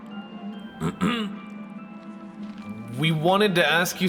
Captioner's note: Jolteon clears throat